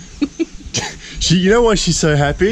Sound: chuckles

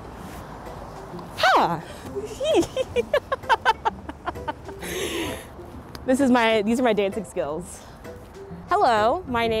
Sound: laugh

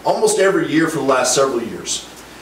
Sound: none

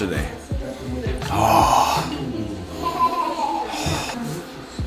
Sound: deep inhaling; gentle music

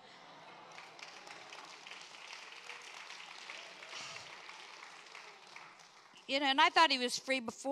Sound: congregation applauds

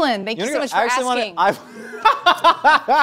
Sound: laughs

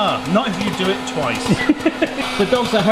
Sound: laughs

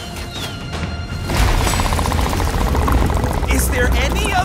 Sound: giant crab growling

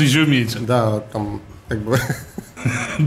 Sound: laughs

